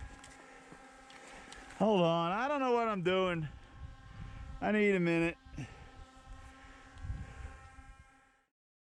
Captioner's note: drone buzzing; heavy breathing